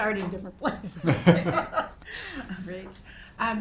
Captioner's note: people laughing